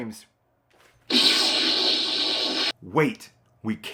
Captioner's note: Proton Pack blast